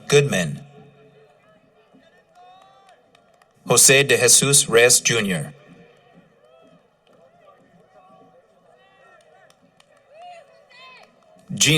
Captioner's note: cheering